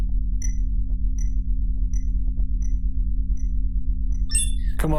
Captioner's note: beeping